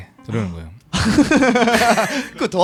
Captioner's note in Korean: 웃음